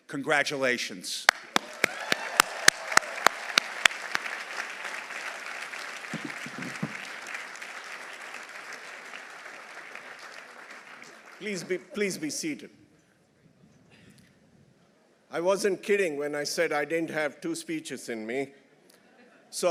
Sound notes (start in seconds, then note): 1.3 audience applauding; 1.5 audience cheering